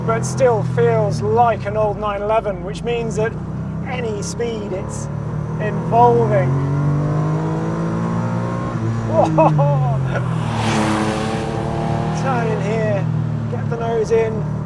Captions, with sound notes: but still feels like an old 911, which means that any speed it's evolving. Whoa. (laughs) (engine roars) Tight in here, get the nose in.